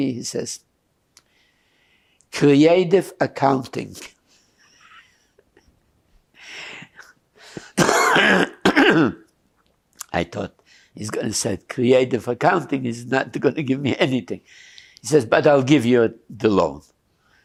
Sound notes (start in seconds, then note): 4.4 pauses 6 seconds